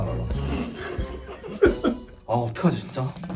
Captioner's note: tries to hold back laughter